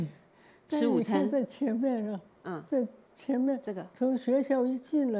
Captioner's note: Mandarin